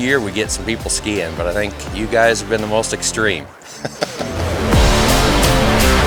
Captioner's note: chuckling; upbeat rock music